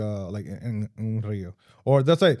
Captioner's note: speaking In Foreign Language